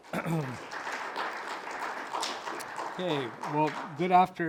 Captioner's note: audience applauding